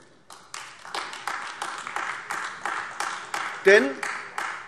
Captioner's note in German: Beifall AfD